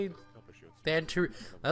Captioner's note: inhale